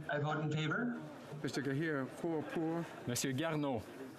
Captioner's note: speaking French